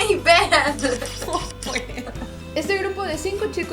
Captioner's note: cries